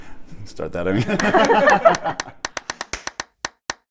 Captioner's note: laughter